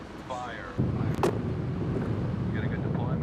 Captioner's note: wind roaring